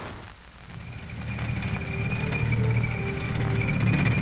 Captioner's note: tank engine rumbling